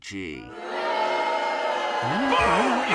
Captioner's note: deserved strawman booing